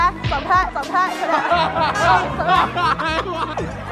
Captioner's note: hahahaha